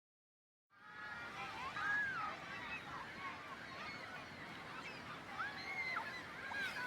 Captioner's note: ocean waves and seagulls and chatter